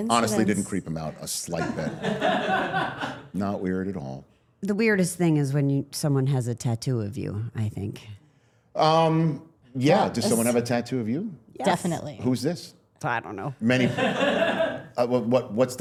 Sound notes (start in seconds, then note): 1.5 all laughing; 13.7 all laughing